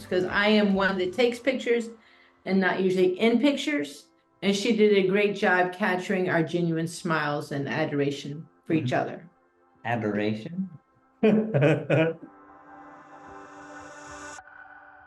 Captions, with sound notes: 'cause I am one that takes pictures, and not usually in pictures, and she did a great job capturing our genuine smiles and adoration for each other. - Adoration? (laughs) (soft music)